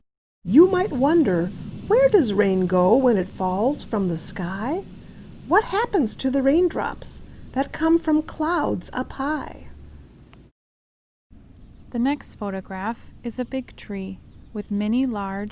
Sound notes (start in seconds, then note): 9.0 gentler rain sounds